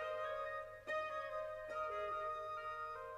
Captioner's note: none